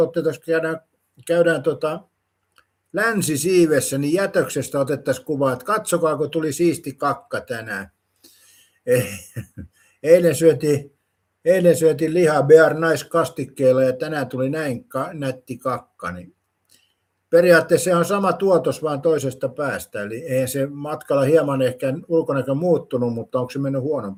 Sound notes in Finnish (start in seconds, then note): 8.9 naurua